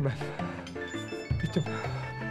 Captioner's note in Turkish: Telefon zili